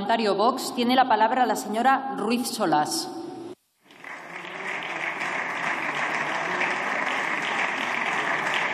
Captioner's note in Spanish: Aplausos